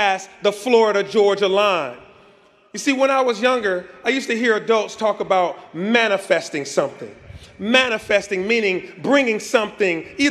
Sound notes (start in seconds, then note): none